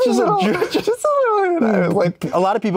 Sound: laughs

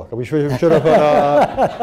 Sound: laughter

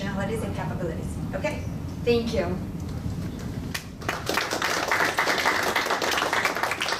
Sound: applause

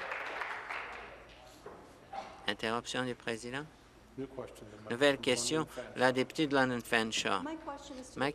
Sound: applause

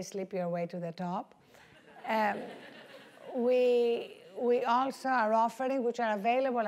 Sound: laugh

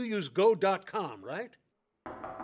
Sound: knock on the door

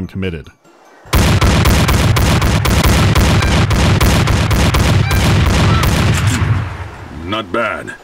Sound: a committed barrage of shotgun blasts

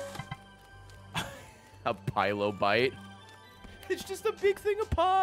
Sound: laughs

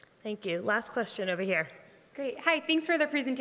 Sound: none

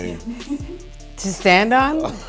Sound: laughing

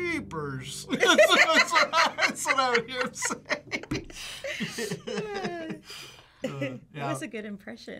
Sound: both laugh

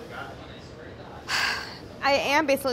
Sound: sighs

